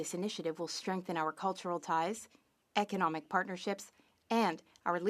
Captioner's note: speaking French